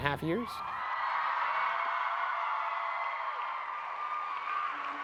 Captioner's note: crowd cheering